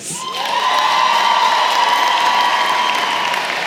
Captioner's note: cheering & applause